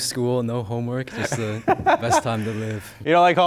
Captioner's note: laughs